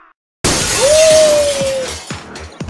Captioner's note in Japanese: ガラスが割れる音